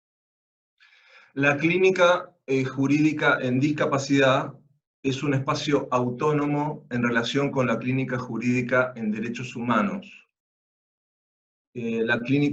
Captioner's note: Spanish